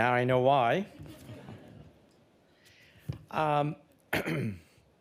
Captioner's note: audience laughing